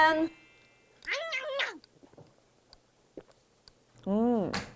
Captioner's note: sip